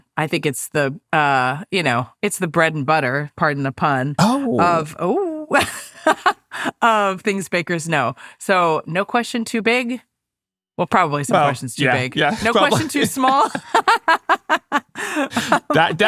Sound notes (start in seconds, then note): 5.5 laughs; 13.9 laughing